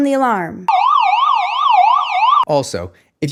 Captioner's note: alarm wailing